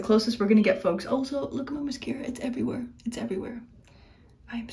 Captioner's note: whispers